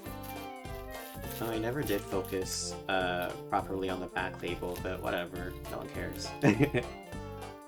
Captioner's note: chuckles